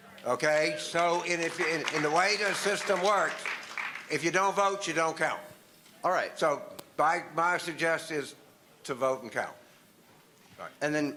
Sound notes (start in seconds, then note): 0.7 applause